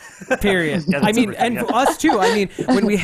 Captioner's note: laughing